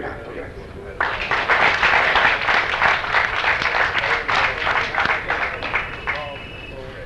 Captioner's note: applause